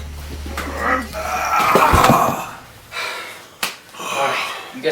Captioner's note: Larry groaning